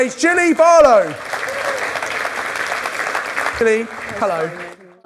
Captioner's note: audience applause